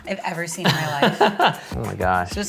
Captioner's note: laughs